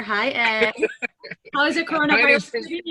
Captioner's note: laughs